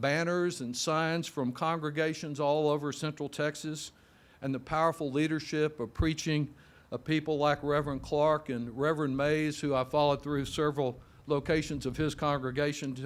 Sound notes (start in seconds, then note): none